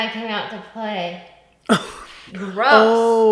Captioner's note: laughs